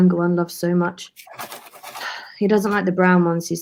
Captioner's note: crunching, eating sounds continue under